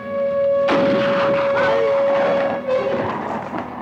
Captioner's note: gun fires